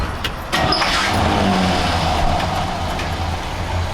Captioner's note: engine starts